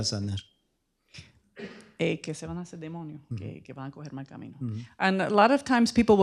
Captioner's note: speaking spanish